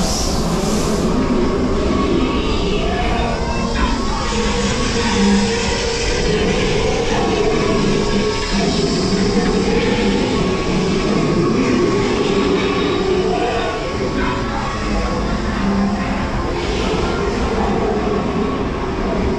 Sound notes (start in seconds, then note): 0.0 wind blowing, steam venting; 3.1 dinosaurs roaring